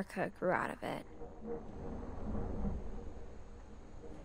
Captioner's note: thunder